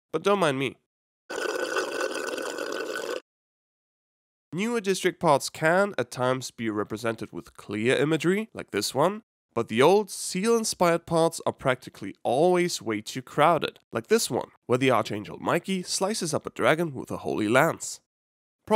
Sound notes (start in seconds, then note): 1.3 loudly slurps cocktail